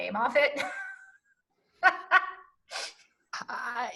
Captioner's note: laughing